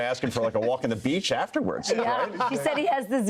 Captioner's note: laughter